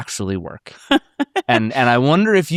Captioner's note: laughs